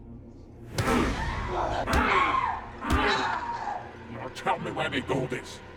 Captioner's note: Linda screaming; kicks thudding